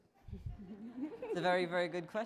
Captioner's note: laughing